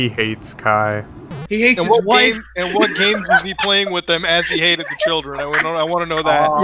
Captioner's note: laughs